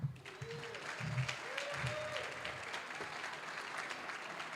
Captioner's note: applause, cheering; applause